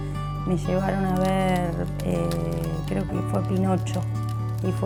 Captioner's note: wood creaking